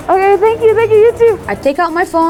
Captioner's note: spanish